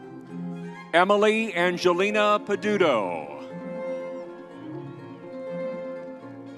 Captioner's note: crowd cheering